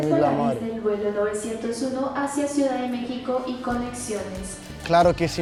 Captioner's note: speaking into the mic